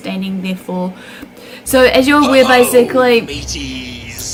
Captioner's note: pirates sound effects